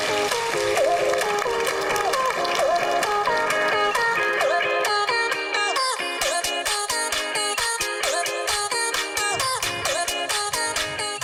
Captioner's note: applause